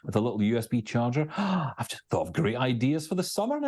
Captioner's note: gasps